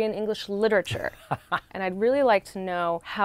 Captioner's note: laughing